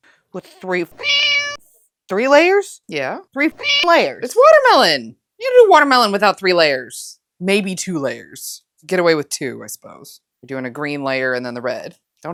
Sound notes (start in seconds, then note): 0.8 meow